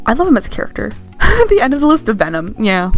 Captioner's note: laugh